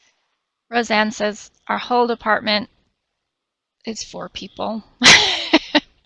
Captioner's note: laughs